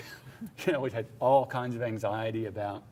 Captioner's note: laughs